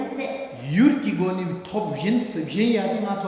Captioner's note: speaking tibetan